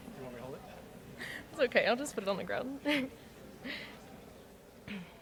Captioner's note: chuckles